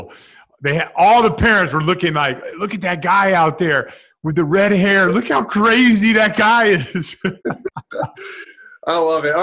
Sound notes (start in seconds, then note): 6.8 laughs